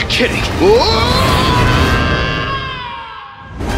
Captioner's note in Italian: urla